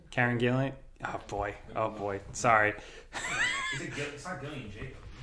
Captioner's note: laughs